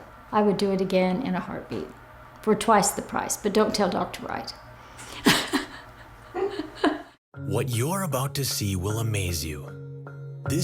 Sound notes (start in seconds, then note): 5.1 laughs